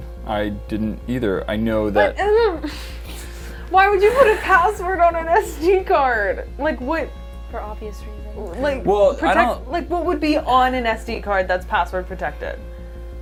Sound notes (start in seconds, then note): 2.6 frustrated noises